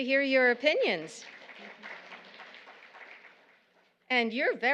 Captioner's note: audience applauding